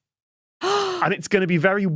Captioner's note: gasps